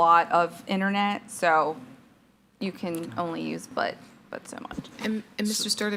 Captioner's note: speaks faintly